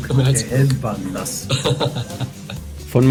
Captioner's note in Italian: risate